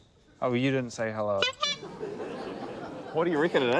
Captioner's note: toots horn; laughter